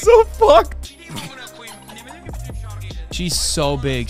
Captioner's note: fighting laughter